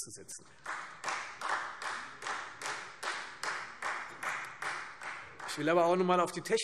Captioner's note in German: Beifall Freie Demokraten